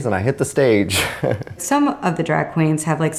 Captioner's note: laughs